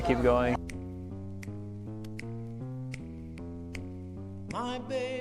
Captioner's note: finger snaps